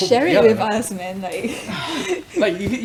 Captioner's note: laughs